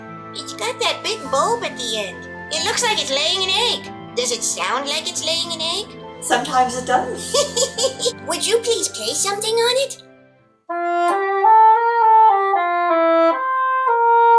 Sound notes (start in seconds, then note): 6.4 laughing